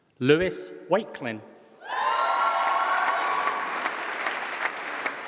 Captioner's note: applause